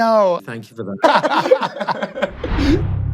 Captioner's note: all laughing; ominous music plays, fades